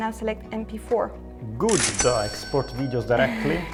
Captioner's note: cash register cha-ching